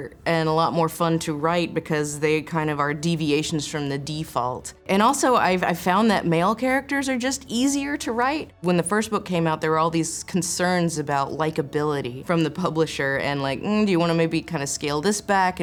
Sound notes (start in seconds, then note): none